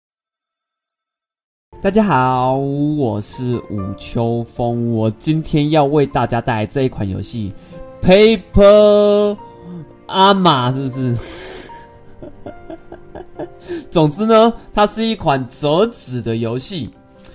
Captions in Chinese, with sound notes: 大家好!! 我是舞秋風 我今天要為大家帶來這一款遊戲 PAPERAMA 是不是? (笑~~) 總之呢 他是一款摺紙的遊戲